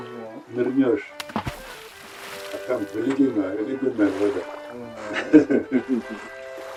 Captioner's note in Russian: Смеется